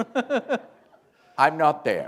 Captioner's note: laughter